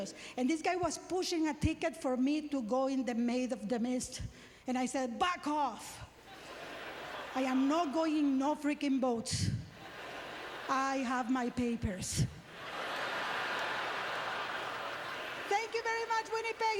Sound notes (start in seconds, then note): 12.4 audience laughter